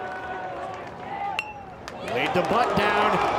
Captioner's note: bat dings